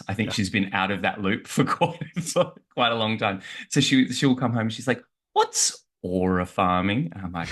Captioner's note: laughs